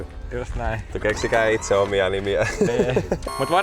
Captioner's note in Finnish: naurua